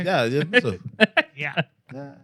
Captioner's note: laughing